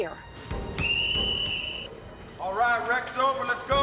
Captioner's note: whistle blowing